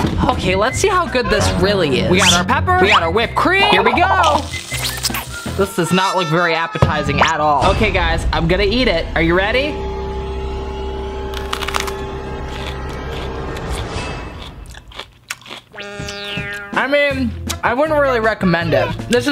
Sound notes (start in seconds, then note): 10.1 chomping; 10.1 suspenseful music